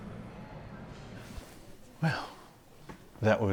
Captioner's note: soft shuffling